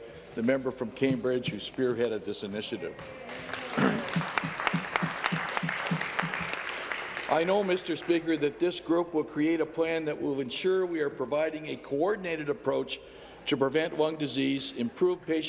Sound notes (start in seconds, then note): 7.1 applause